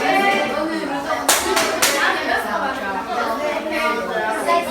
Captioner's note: clapping